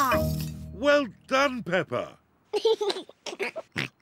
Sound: giggles

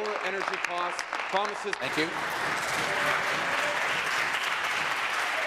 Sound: applause

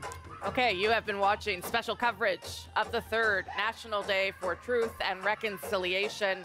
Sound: speaking French; speaking Indigenous Language

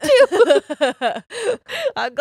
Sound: laughs

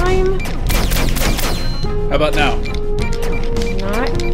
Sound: Auliver continues blasting while Curie types

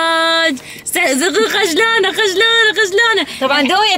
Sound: laughs

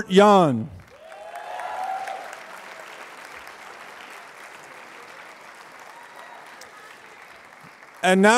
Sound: applause

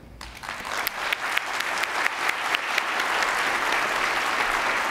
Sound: attendees applauding

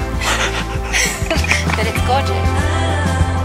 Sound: laughs

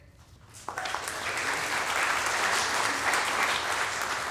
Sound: audience applauding

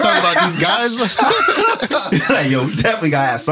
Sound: laughter

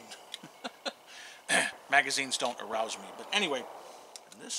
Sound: laughs

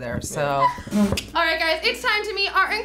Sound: team laughs

